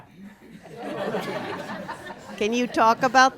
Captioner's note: laughter